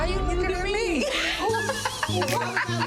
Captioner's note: laughs